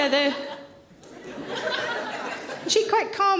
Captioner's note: audience laughing